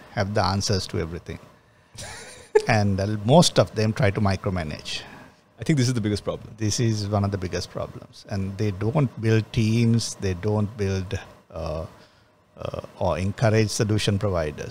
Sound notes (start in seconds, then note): 2.0 laughs